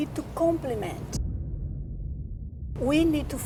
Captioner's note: cinematic hit